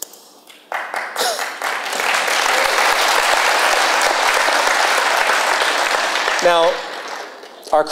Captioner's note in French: Applaudissements